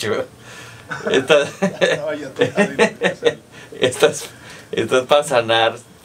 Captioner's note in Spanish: risas